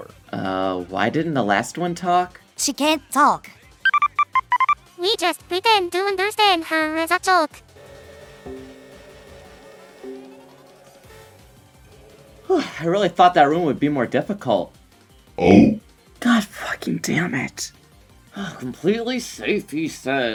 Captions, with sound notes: uh why didn't the last one talk? she can't talk (phone noises) we just pretend to understand her as a joke I really thought that room would be more difficult god fucking dammit "completely safe" he says